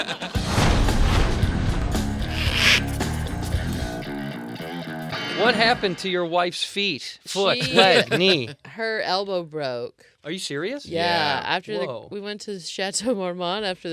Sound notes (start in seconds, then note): 0.1 upbeat music; 2.4 marker scribbling